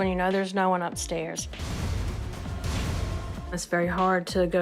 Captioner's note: eerie sounds